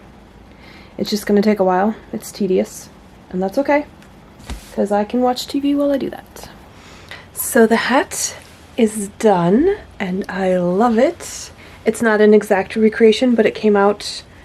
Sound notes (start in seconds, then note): none